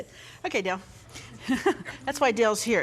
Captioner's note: chuckles